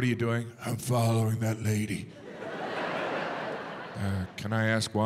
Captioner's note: audience laughs